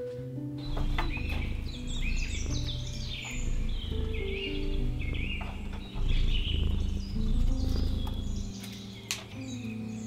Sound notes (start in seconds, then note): 0.5 birds chirping; 6.0 Sunny purring